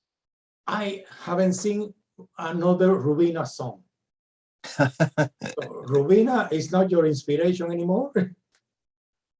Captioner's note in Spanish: se ríe